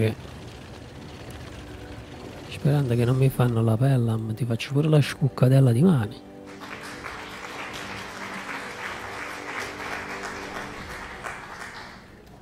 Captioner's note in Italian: Applauso